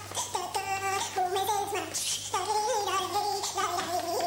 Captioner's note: humming